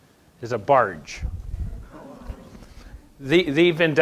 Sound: gasps

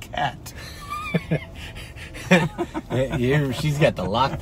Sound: laughing

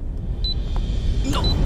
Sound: bomb ticking

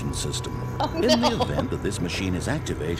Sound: laughter

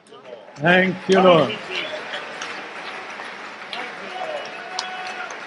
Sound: group applauds and cheers

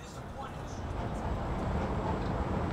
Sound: Traffic

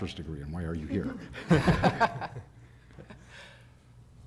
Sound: laughter

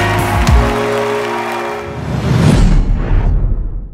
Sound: upbeat music; whoosh

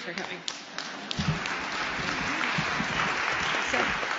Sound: applause

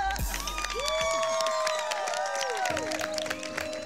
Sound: crowd cheering

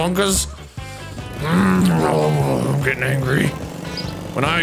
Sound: groaning

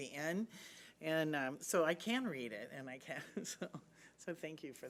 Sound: laughing

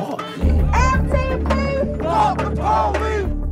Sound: shouting

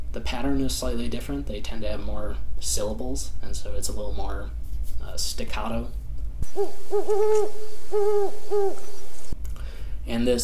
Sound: owl call plays

